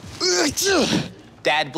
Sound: Clyde sneezing

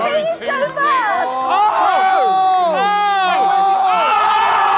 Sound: Sidemen cheering

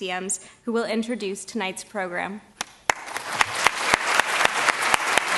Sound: audience clapping

